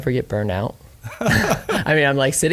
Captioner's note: laughing